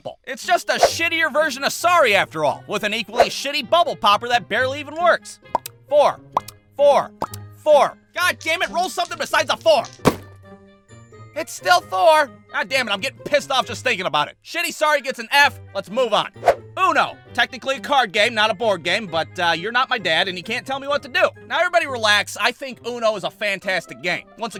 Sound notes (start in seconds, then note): 5.5 pop!; 7.2 pop!; 9.9 thud!